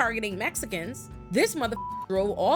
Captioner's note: beep